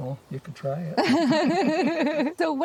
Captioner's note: laughs